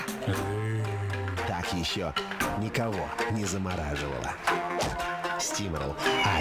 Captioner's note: hit